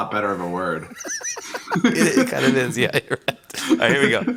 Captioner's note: laughs